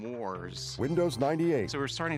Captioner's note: windows startup sound